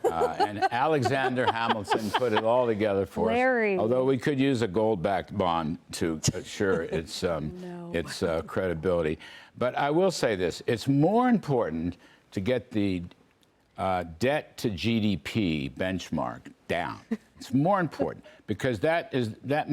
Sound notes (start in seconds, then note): 6.3 laughter